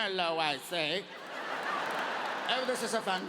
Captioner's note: audience laughing